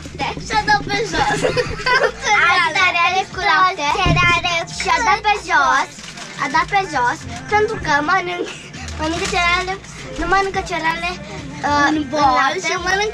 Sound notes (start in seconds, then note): 0.9 chuckles